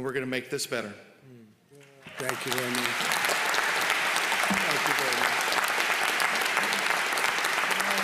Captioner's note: applause